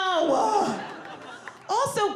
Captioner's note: audience laughing